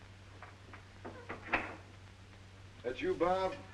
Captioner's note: door closes